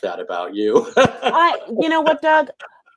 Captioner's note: laughs